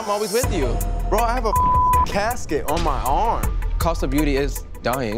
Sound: beep

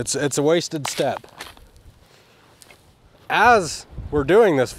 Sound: shovel rattling

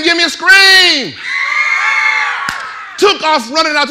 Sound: audience screaming

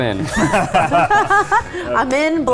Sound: laughing

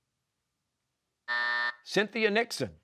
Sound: buzzer

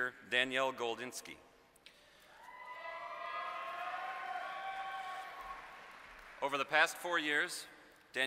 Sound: applause

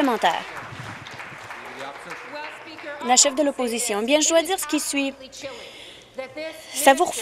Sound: applause

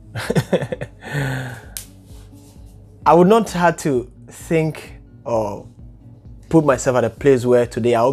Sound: laughs

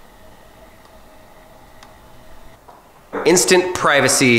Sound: quiet motor humming

